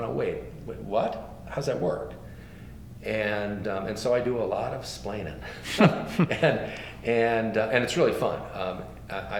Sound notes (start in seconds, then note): 5.5 laughs